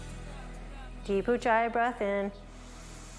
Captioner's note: breathes